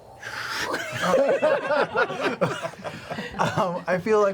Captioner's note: laughter